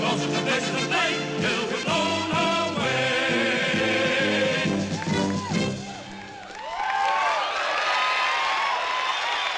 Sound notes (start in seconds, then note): 6.1 crowd cheering